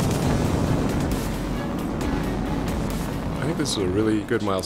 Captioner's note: rocket roaring